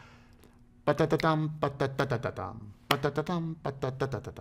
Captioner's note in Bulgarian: ритмическо тактуване